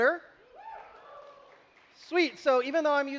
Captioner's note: cheering